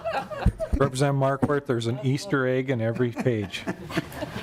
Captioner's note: laughing